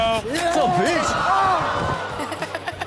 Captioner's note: camera person screams; audience groans